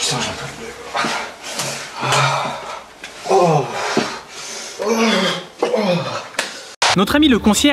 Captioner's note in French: Soupirs et grognements de douleur